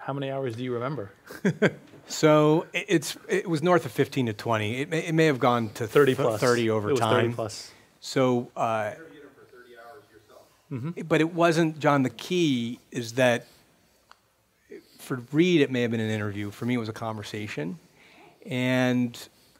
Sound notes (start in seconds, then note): 8.7 voiceover